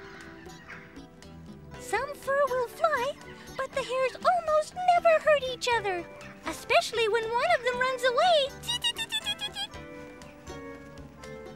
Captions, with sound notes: Some fur will fly, but the hares almost never hurt each other, especially when one of them runs away (giggles).